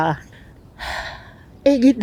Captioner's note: deep sigh